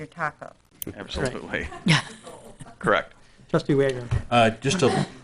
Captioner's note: laughing